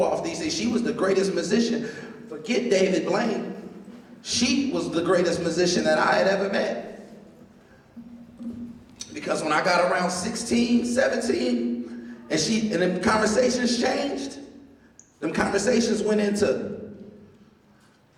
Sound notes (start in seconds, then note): none